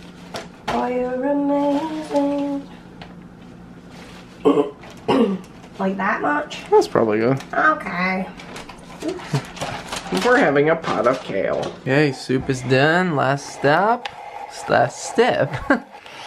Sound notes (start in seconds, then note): 0.2 singing; 5.0 clears throat